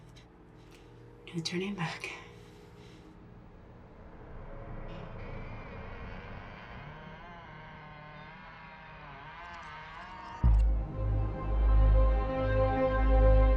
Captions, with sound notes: - No turning back. (door creaking) (suspenseful music)